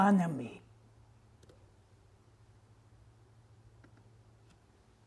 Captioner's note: pauses 13 seconds